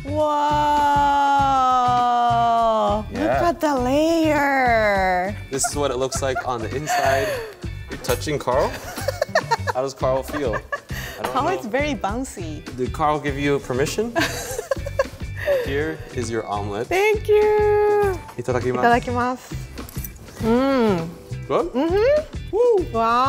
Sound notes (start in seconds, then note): 8.7 laughing; 14.2 laughing; 18.4 speaking in foreign language